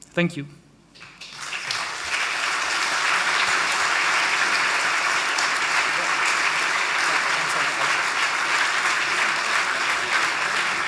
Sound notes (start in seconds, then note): 1.6 audience applauding; 6.4 chattering faintly